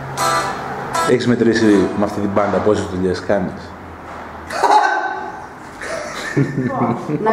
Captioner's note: laughs